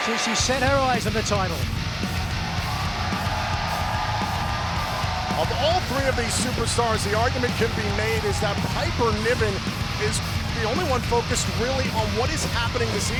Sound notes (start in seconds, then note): 1.8 audience cheers; 1.8 upbeat music begins